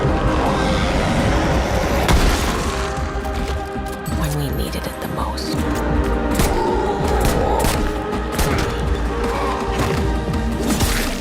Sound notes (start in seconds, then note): 0.1 inhuman roar; 6.4 zombie growling